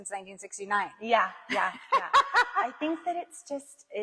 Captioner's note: laughs